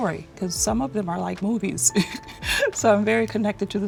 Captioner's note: chuckling